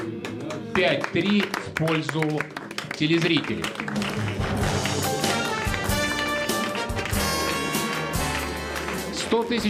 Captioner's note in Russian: аплодисменты